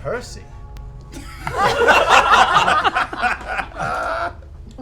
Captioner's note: laughter